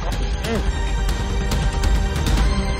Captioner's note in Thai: เสียงออกแรง